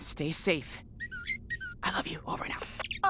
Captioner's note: bird tweeting